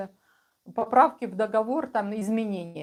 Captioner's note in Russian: none